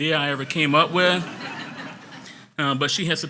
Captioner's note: audience laughs